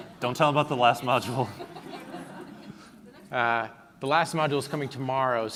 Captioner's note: laughing